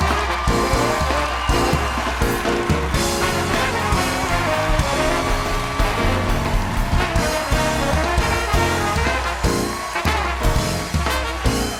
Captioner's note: cheers and applause